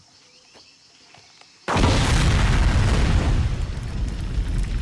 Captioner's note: explosion